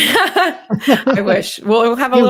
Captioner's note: laughs